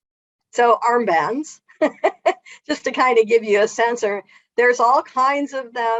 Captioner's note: laughs